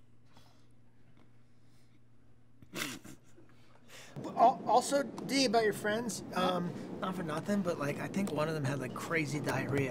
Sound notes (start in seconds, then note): 2.7 laughs